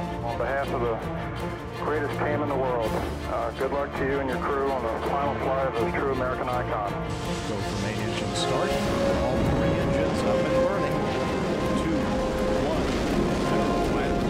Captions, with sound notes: - On behalf of the greatest team in the world, good luck to you and your crew on the final flight of a true American icon. (engines firing) - Go for main engine start. All three engines up and running. Two, one, zero and liftoff!